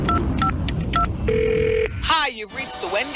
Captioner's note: beeping; phone ringing